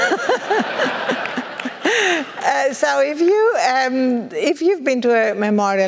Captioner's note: laugh